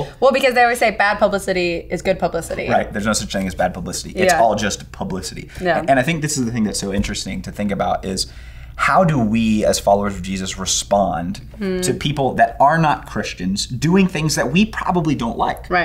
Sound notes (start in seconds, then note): none